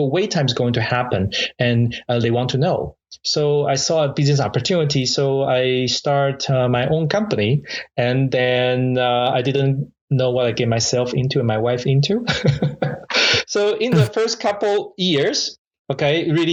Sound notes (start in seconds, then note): 13.9 laughs